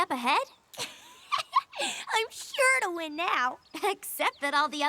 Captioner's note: laughs